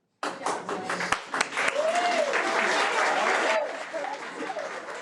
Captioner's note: audience clapping